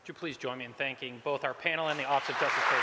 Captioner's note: applause